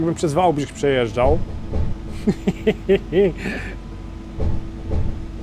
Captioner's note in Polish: śmiech